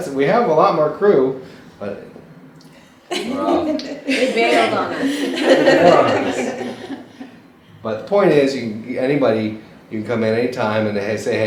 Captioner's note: laughter